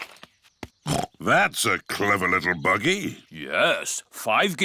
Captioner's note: snorts